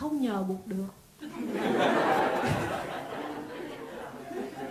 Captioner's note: audience laughs out loud